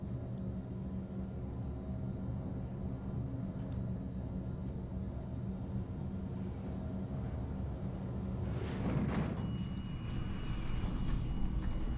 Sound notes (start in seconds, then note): 9.4 elevator bell dings